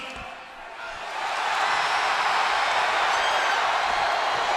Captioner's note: audience cheers